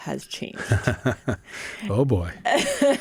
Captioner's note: laughs